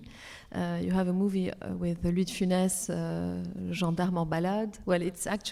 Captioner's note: speaks French